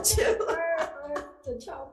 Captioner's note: laughing